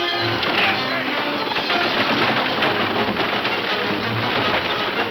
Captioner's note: wagons thundering; bold instrumental music